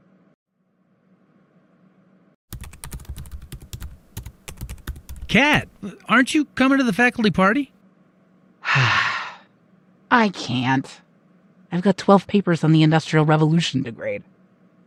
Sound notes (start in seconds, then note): 2.5 typing; 8.6 sigh